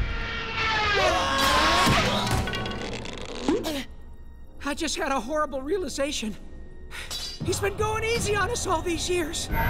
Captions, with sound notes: [screaming] I just had a horrible realization. He's been going easy on us all these years.